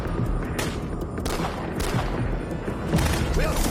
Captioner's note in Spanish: Disparos